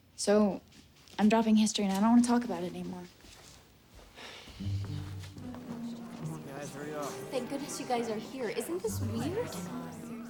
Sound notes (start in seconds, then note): 4.1 Spencer sighs